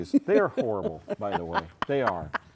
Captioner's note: laughing